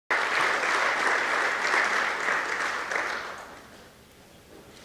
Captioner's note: applause